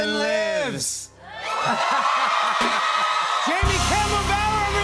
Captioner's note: cheers and applause